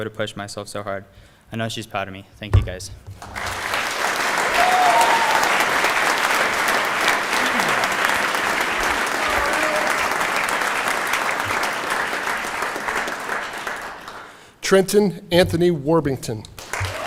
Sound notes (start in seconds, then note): 6.0 applause